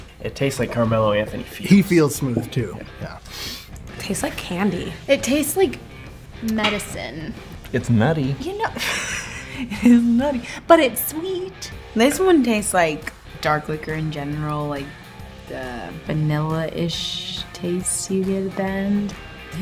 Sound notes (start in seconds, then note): 8.7 laughs